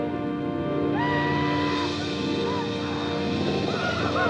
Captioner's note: Apaches howl